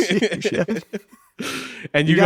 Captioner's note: laughing